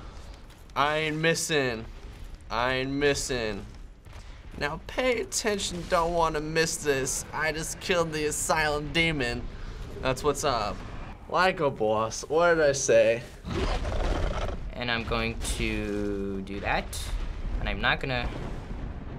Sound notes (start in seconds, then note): 13.4 demon snarls